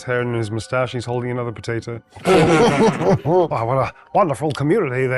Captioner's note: group laughs